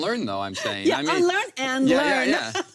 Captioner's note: laughs